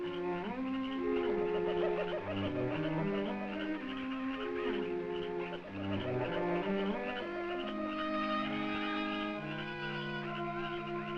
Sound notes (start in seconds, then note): 1.2 birds cawing